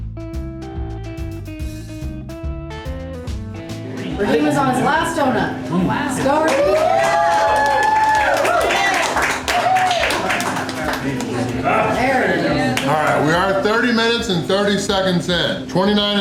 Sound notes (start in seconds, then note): 6.0 crowd; 6.2 cheering